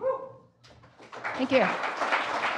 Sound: applause

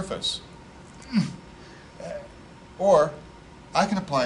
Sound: grunts

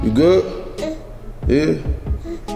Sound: baby whimpers

